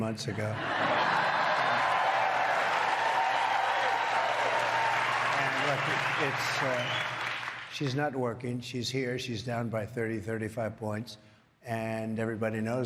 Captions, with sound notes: Trump> Well, I settled it about three months ago (crowd applause) and it's, she's not working. She's here. She's down by 35 points.